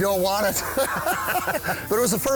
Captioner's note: laughter